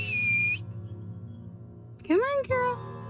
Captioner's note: whistling